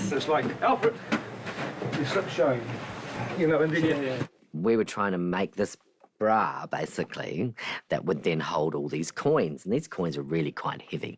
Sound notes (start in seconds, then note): none